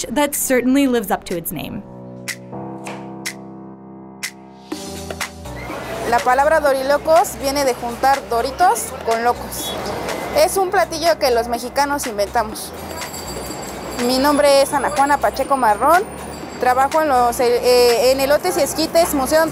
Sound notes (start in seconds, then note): 2.2 chill music; 6.1 speaks in foreign language